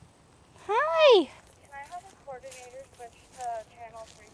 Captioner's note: walking sounds